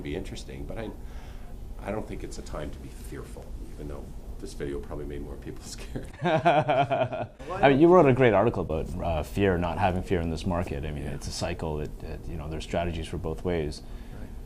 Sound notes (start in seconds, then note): 5.8 laughter